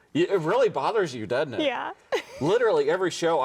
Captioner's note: chuckles